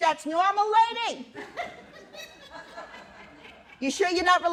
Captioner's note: laughter